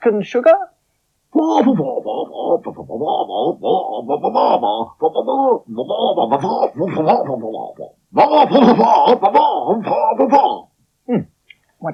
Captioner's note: Spencer Talks In Spider Language